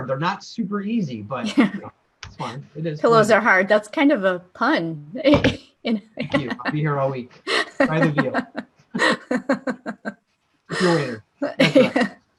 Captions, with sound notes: They're not super easy. - Pillows are hard, that's kind of a pun. (laughter) - Thank you, I'll be here all week. Try the veal. (laughter) Tip your waiter.